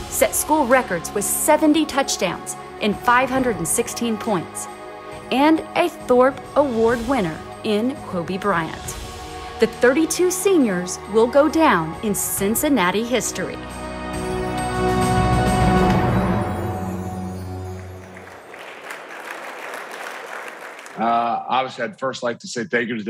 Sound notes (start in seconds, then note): 14.3 bright upbeat music; 17.5 audience clapping